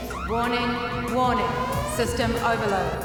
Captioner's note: female Electronic Voice